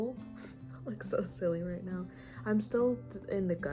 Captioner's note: laugh